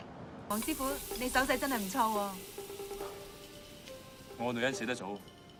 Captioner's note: speaking in foreign language